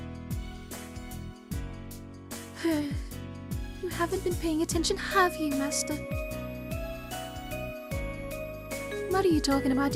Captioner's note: sigh